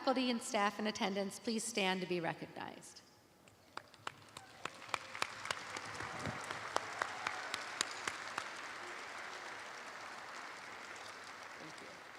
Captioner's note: applause